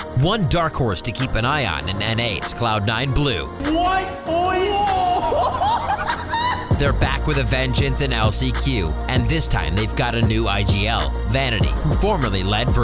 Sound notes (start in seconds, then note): 3.6 laughing